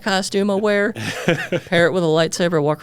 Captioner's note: laughing